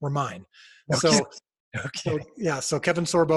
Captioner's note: laughing